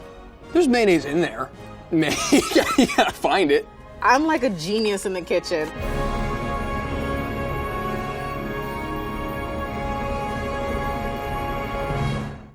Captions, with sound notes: - There's mayonnaise in there, [laughing] you gotta find it. - I'm like a genius in the kitchen. [triumphant music]